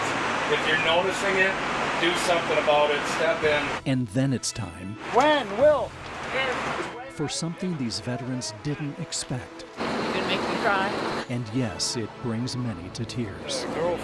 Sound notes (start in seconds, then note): 6.4 calling out name